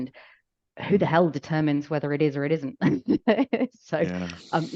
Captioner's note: laughs